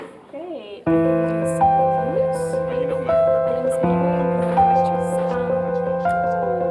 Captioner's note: people chattering; gentle music